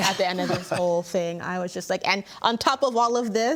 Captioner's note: laughing